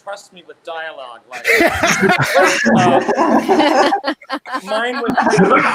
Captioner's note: participants laughing